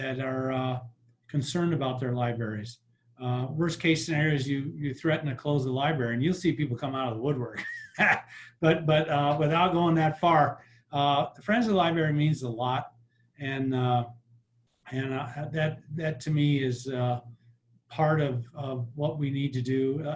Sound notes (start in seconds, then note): 7.6 laughs